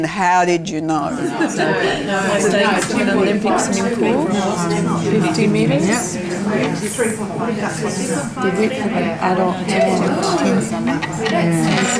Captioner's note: audience chatter